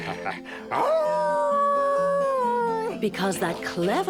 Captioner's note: wolf howls